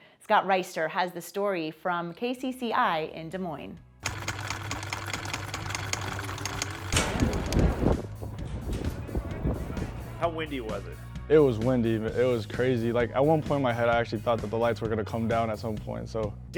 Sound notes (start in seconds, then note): 4.0 machine clicking; 7.0 wind blowing